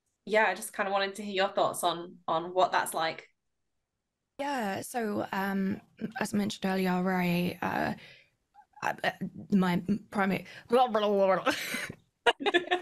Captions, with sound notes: Yeah, I just kind of wanted to hear your thoughts on what that's like. Yeah, so... As I mentioned earlier, my primary... [mutters on purpose]